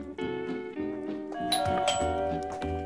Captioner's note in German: Es klingelt